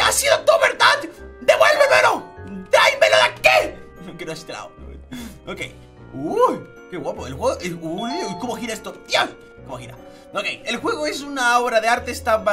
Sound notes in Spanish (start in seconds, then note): 6.1 Sorprendido; 9.0 Emocionado